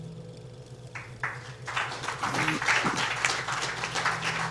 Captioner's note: applauding